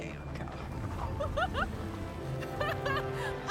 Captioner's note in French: rire excité